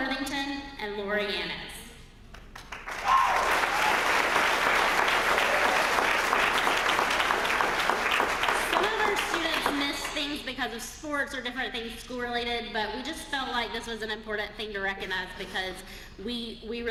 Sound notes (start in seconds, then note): 2.3 applause